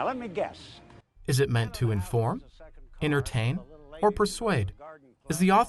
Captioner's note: voiceover